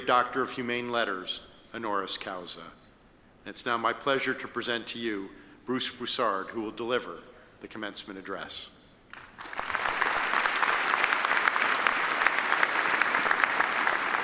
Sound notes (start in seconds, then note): 9.1 audience applauding